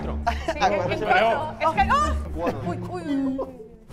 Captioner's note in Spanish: grita